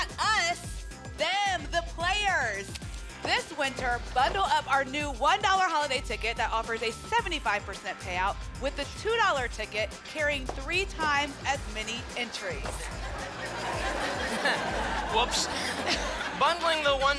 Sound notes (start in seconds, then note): 12.8 laughter